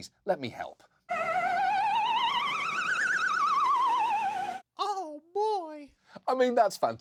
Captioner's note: imitates siren